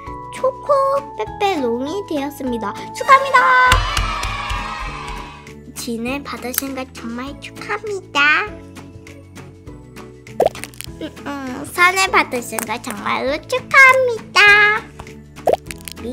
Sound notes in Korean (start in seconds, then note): 3.1 수상을 축하합니다! / 짝짝짝!! / 짝짝짝!! / 짝짝짝!!